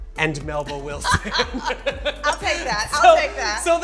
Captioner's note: both laugh